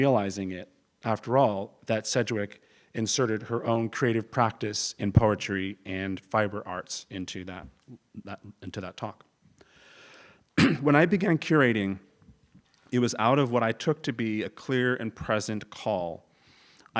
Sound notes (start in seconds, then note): 10.5 cough